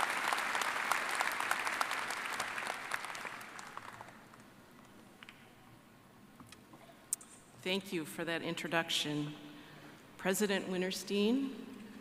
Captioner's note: applause